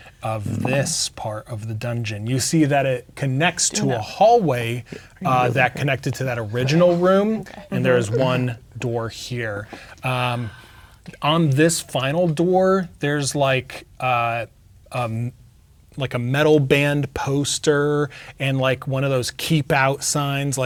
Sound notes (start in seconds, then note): 6.6 speaking quietly